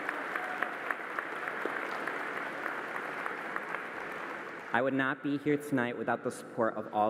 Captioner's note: cheering and applause